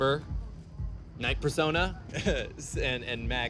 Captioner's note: laughs